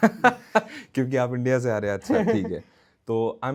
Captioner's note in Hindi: हंसी